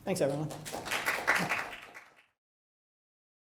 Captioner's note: applause